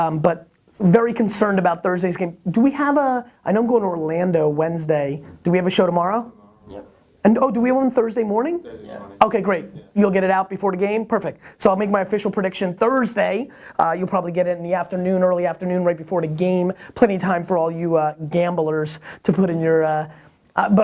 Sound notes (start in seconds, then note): 8.8 voiceover